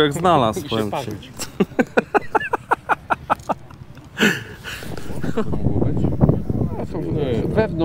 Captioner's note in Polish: śmiech